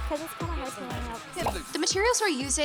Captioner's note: crew chatting